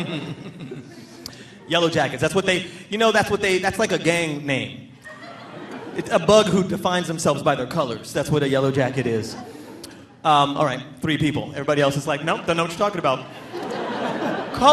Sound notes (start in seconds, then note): 0.0 laughing; 5.0 audience laughing; 13.8 audience laughing